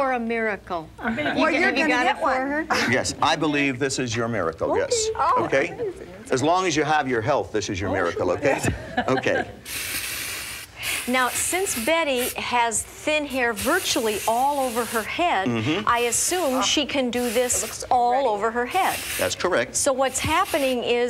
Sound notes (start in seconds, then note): 10.3 spraying